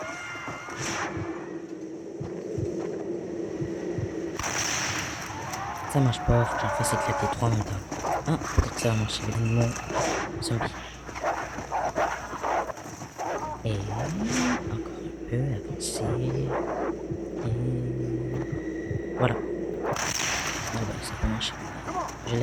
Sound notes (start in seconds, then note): 0.0 screams of zombie; 4.3 sounds of shooting and explosion; 9.3 sounds of furious wolves; 18.3 sounds of shooting and explosion